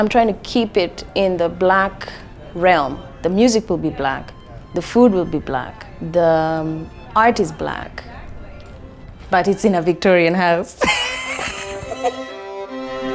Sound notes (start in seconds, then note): 10.7 laughs; 12.8 classical music